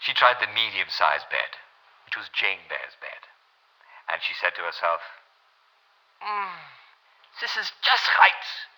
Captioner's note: German